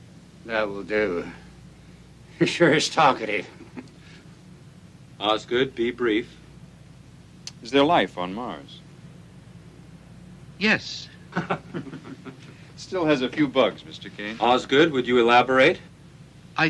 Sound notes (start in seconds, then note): 11.2 men chuckling